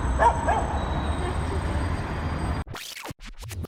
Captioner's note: dog barking